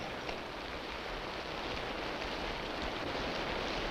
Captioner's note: rain pattering